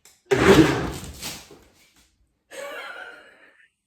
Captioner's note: blender lid pops; woman laughing